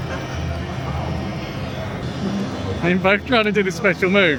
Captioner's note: crowd Chattering